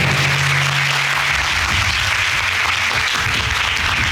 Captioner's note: applauding